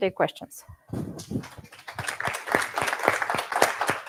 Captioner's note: applause